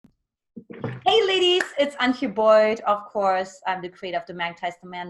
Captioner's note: claps